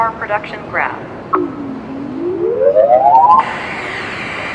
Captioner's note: rising tone; static